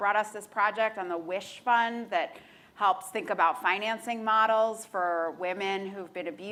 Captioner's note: none